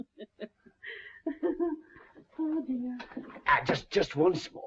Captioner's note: laughs